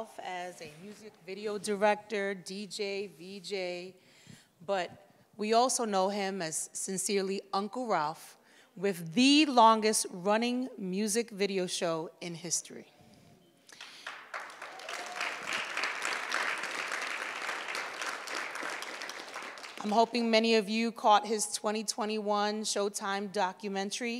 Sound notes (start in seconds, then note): 13.7 audience applauds